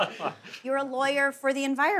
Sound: laughs

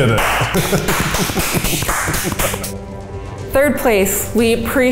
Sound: laughs; all applaud

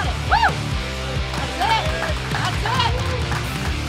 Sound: cheering & Clapping

